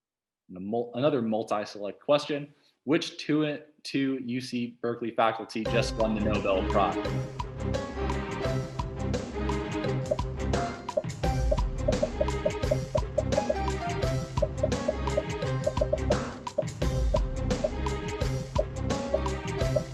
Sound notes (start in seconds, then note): 9.8 dramatic music; 9.9 popping